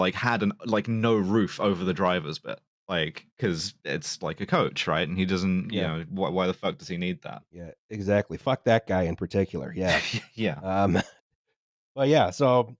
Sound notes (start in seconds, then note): 9.8 laughs